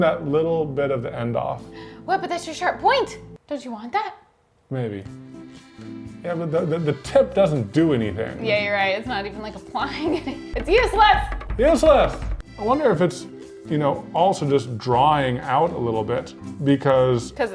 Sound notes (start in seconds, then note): 9.9 chuckles